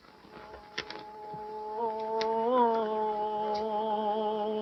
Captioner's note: chanting